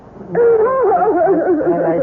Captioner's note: muttering